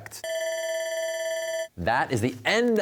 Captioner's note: bell ringing